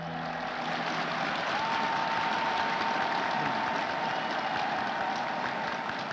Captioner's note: applause